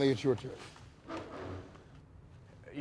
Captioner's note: chair scraping